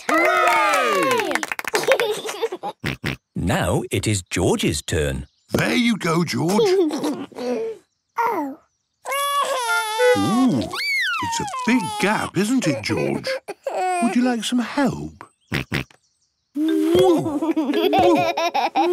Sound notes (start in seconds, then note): 2.4 laughs; 9.1 cries; 15.3 snorts; 18.7 laughs